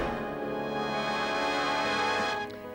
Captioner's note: whoosh; theme music